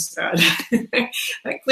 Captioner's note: laughs